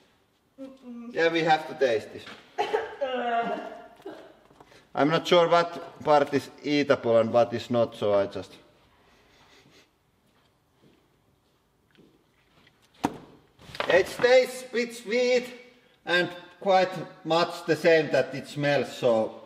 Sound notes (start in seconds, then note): 2.6 cough, ugggh; 9.2 sniffing